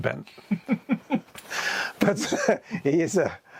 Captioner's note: guy laughs